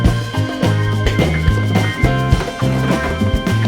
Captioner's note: footsteps on stairs